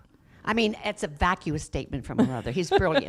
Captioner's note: laughs